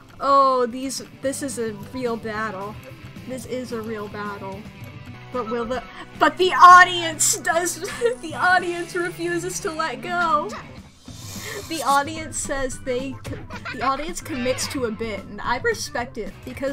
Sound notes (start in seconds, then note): 6.1 gasps